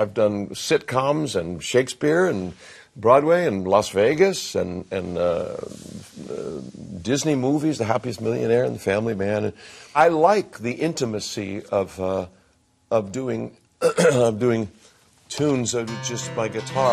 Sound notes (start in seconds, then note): 13.8 clears throat